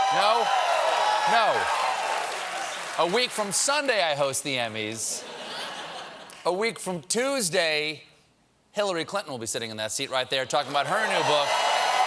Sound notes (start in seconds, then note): 5.0 cheers and applause